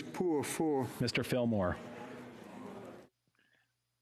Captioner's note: speaking French